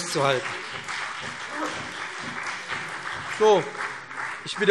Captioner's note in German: Beifall BÜNDNIS 90/DIE GRÜNEN und CDU